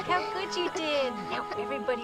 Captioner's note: kids laughing